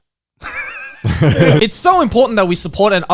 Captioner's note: laughing